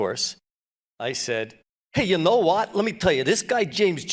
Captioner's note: brooklyn accent